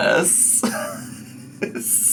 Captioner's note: laughing